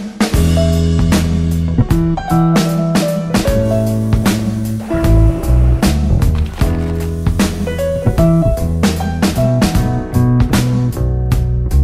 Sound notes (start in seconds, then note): 3.8 sizzling; 4.8 bubbling; 6.8 jazz music continues